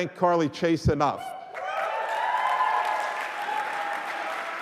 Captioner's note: applause